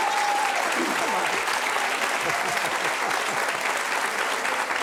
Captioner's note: audience applauds